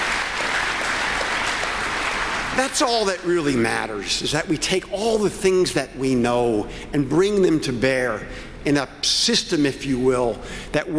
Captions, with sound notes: HEALTHCARE AND INTO THE COMMUNITY. I THINK THAT IS THE FUTURE OF TREATMENT, HOWEVER WE PRACTICE TREATMENT IN THIS COUNTRY. THANK YOU, KEVIN KIRBY, FOR WHAT YOU ARE DOING. YOU ARE DOING. [ APPLAUSE ] THAT'S ALL THAT REALLY MATTERS, IS THAT WE TAKE ALL THE THINGS THAT WE